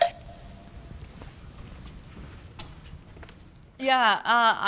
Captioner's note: feet stomping